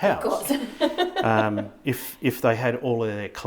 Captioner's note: laughing